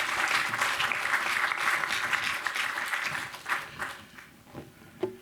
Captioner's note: applause